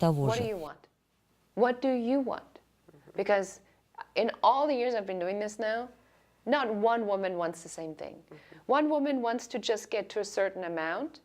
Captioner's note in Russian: Разговаривают на английском